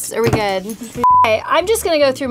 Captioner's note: beep